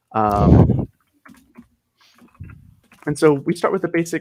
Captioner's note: chuckles